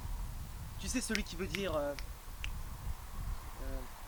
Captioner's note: several snaps of fingers